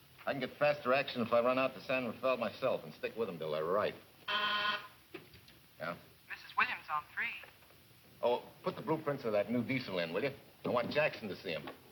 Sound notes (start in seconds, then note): 4.2 buzzer sounds